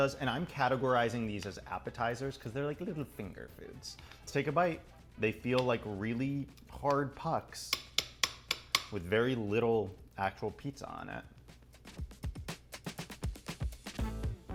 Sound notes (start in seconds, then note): 7.7 repetitive tapping; 10.9 upbeat music